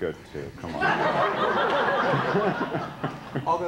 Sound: laughter

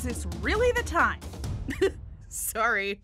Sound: laughs

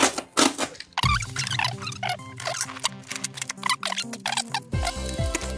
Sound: paper tearing; tape skipping forward

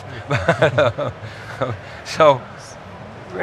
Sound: laughing

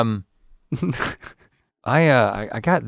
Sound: Link laughs

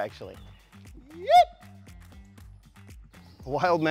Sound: yipping

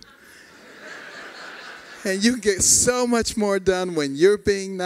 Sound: laughter

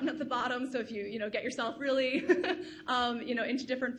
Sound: laughs

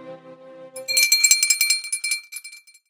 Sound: bell rings

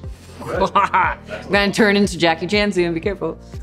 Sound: laughs

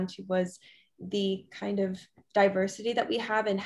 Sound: none

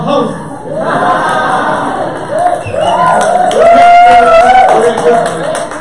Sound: audience laughter, cheers, and applause

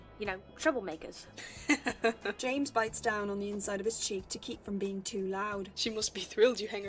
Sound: James laughs

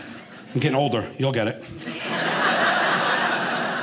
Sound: audience laughing

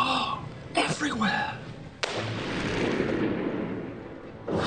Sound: shot echoes

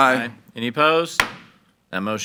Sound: gavel bangs

